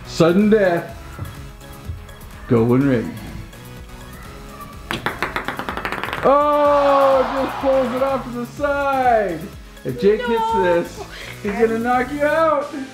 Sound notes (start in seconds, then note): 4.6 ball clacks; 6.4 disappointed crowd